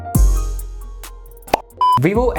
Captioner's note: lollipop sound